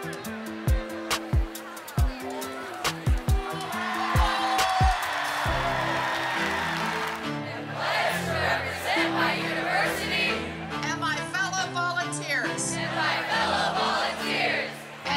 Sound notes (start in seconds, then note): 3.6 cheering; 7.7 crowd; 12.1 crowd